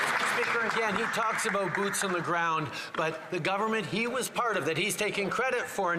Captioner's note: some Applause